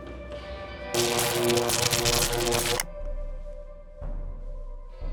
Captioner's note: zapping